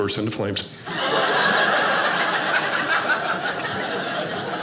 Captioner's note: audience laughing